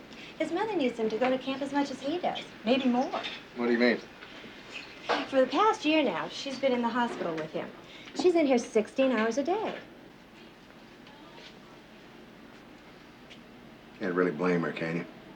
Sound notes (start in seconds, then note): 10.2 intercom chatter